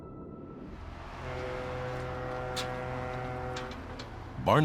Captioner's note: ship horn